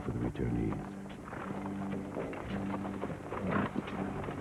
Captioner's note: nickering